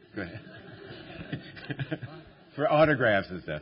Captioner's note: laughter